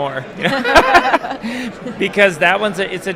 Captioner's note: laughing